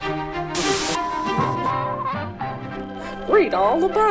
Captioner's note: static; upbeat music; radio noises